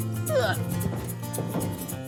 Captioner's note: Clive grunting